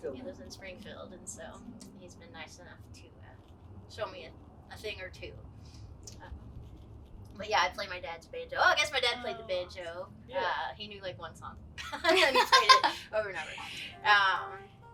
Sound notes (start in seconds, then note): 11.8 laughs